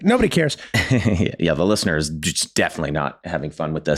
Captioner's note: laughs